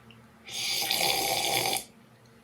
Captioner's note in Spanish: sorbe ruidoso